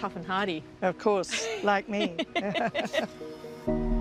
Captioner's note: laughs